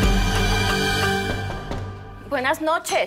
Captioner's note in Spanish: Toques en la puerta